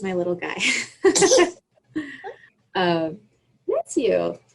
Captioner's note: laughs